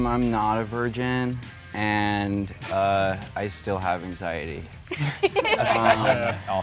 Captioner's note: laughter